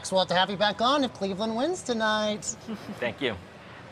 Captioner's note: laughs